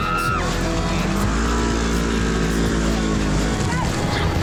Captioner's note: engine revving